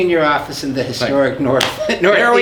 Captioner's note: chuckles